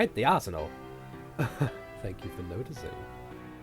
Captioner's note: chuckles